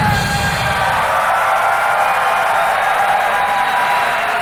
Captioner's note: crowd cheering